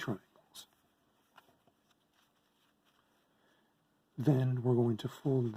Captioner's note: paper rustling